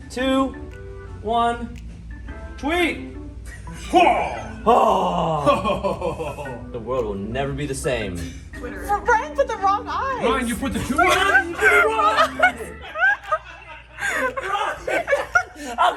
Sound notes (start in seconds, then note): 3.8 men grunting; 13.1 team laughing